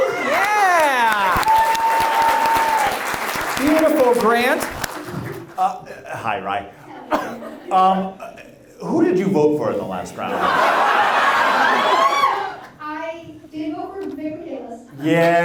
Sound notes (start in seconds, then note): 0.0 audience applauds; 10.2 audience laughs